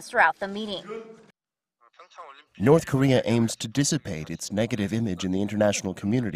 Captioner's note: Korean